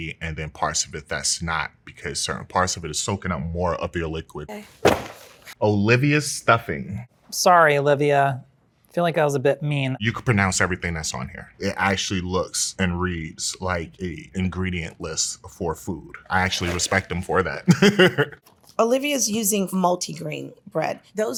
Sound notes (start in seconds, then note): 17.6 participant laughs